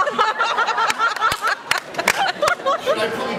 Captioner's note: laughs